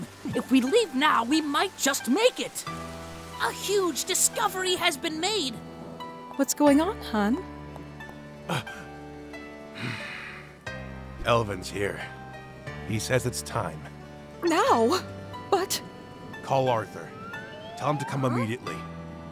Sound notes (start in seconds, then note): 9.7 sigh